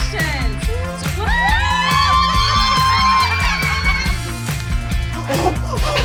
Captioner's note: all cheering